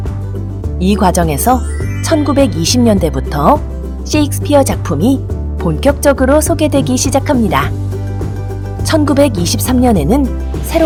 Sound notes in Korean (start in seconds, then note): 1.3 반짝이는 효과음